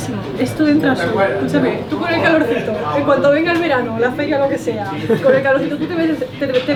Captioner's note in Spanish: risas